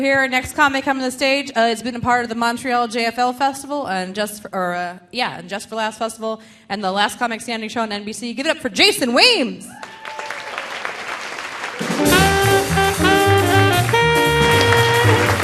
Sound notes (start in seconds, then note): 9.7 audience cheering; 9.7 audience applauding; 11.8 delightful music